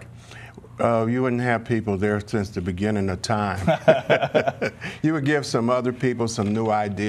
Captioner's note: laughter